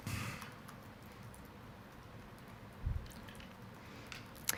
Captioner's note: keyboard clicks